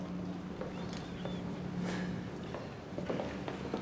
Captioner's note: sighs